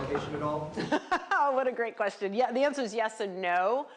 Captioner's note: laughs